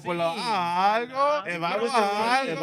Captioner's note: speaking In Foreign Language